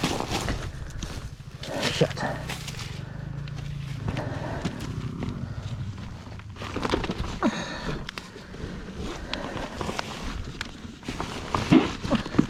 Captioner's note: heavy Breathing and Some Grunting